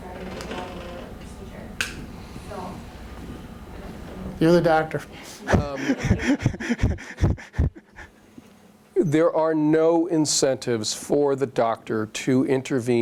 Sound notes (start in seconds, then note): 5.4 laughs